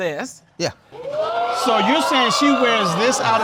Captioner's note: audience clamoring